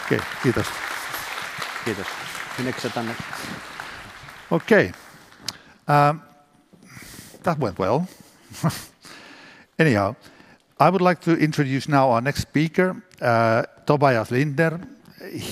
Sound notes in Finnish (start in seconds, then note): 1.8 Applause